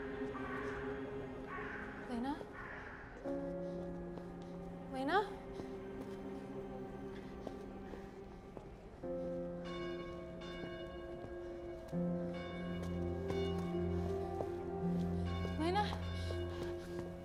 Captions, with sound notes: (dramatic orchestral music) Lena? Lena? (bells tolling) Lena?